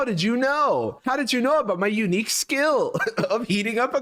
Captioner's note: chuckles